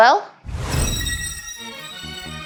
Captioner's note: beaming laser; upbeat techno music